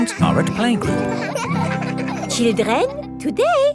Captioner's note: children laughing